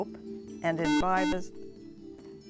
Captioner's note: buzzer